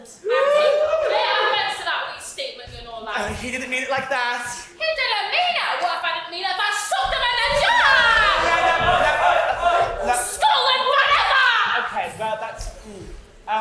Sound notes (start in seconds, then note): 0.2 audience cheers; 9.2 general racket of ooh's